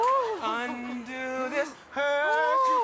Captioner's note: audience laughs